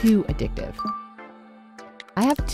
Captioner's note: phone dinging